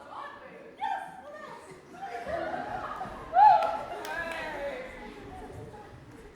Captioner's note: audience laughs and cheers